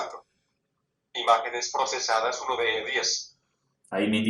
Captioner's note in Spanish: voz del dispositivo